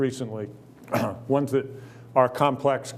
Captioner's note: clears throat